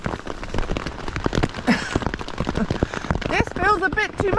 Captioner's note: rain pelting bivi